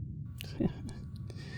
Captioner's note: Vito laughs